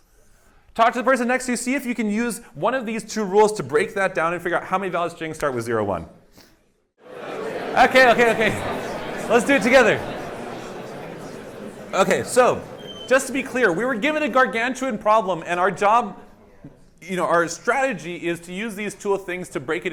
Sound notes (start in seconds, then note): 6.8 indistinct chatter